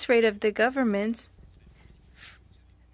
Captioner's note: speaking french